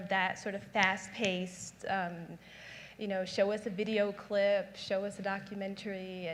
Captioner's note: snaps fingers